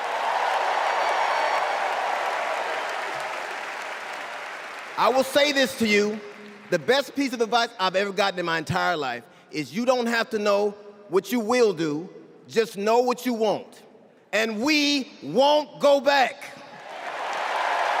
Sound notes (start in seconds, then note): 6.3 cheers and applause